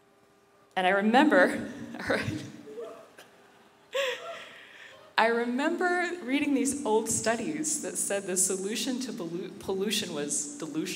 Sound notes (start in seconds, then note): 2.1 laughing; 2.7 random whoo hoos from audience